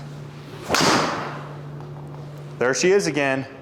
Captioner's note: club swishing and clicking; impact of ball thudding